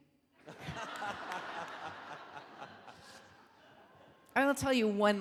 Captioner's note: audience laughing